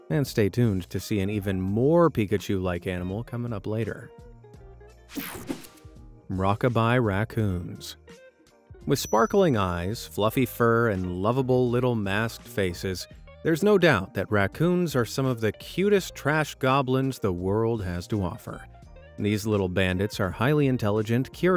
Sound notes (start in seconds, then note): 5.1 graphics whooshing